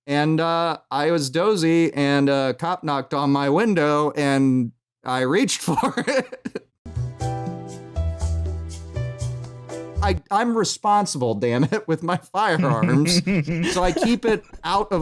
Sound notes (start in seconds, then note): 6.9 chill elevator music; 12.5 laughter